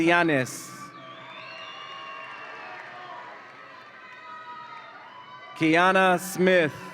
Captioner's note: audience applauds and cheers